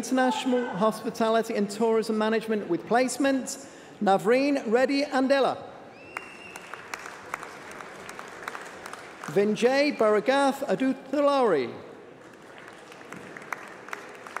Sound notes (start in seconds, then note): 12.2 applause